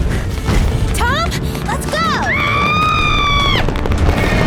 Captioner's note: screams